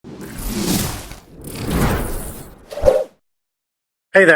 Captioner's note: logos whoosh